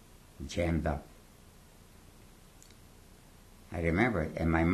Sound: pauses for 3 seconds

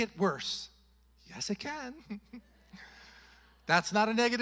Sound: chuckles

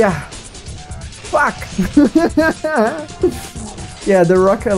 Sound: laughs

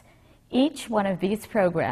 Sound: none

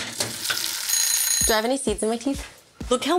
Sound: timer ringing

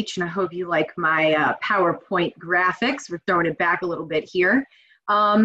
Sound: none

